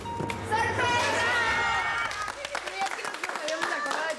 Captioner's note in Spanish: aplausos